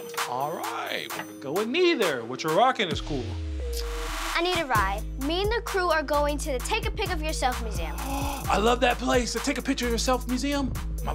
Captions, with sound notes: All right, go with neither! What you're rocking is cool! - I need a ride. Me and the crew are going to the Take a Pic of Yourself Museum. - (gasps) I love that place! The Take a Picture of Yourself Museum?